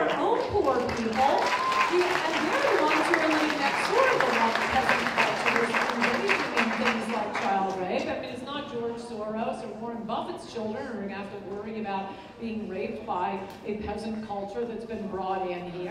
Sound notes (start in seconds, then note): 0.0 applause